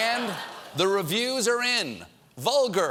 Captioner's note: laughter